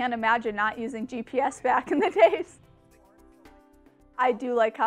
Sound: laughs

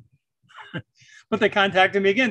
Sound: chuckles

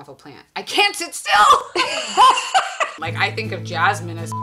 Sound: laughing

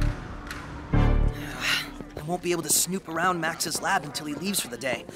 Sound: sighs

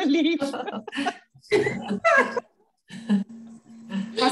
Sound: all laughing

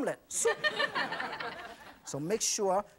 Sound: audience laughs

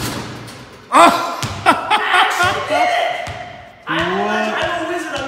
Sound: laughs

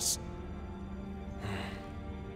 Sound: sighing

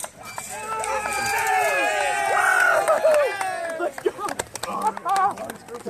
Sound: applause

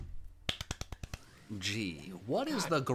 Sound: applauds

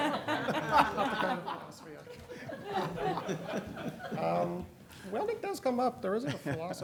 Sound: laughter

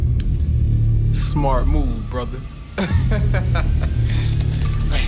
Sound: laughing

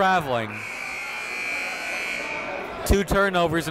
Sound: buzzer goes off

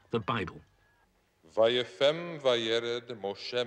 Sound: speaking hebrew

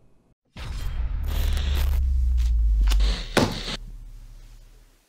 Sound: crackling and thumping

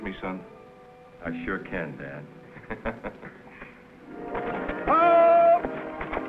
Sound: laughs

